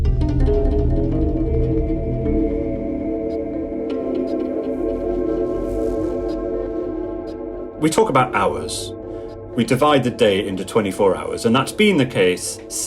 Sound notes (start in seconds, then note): 0.2 exotic music; 2.0 bell resounding distantly; 4.1 dreamy exotic music; 4.9 clock ticking